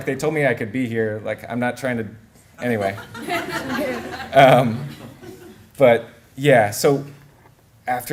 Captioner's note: laughter